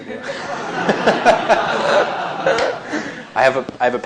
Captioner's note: laughter